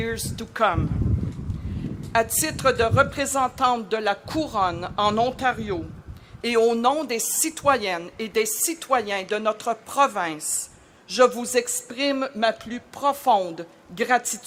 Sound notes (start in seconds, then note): 3.9 speaking French